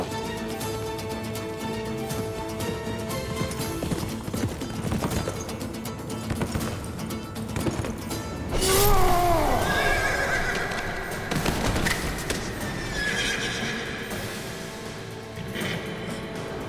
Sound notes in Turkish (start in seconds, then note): 0.0 At nalı sesleri; 8.6 At kişneme sesi